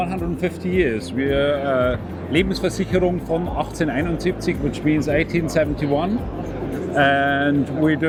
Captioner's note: speaking german